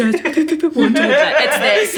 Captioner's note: all laughing